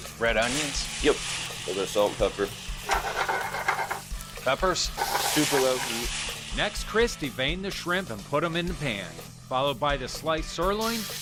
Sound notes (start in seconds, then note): 5.6 pan sizzling